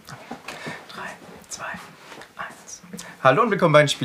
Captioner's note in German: flüstert